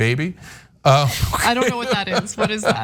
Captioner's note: laugh